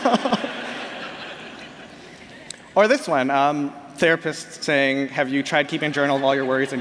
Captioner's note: laughter